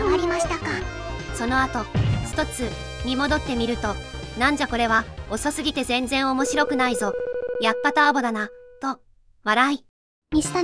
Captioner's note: laughs